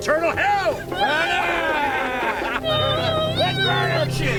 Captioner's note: shouting